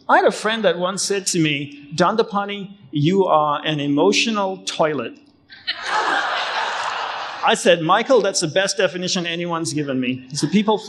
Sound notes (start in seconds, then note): 5.6 crowd laughing